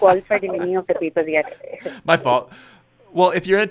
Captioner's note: laughs